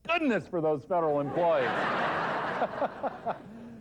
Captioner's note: laughter